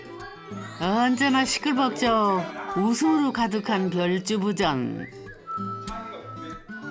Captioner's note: The Rabbit House, bustling with the sound of people